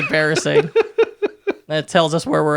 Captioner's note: laughing